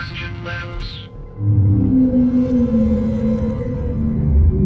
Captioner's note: Aerozoan moaning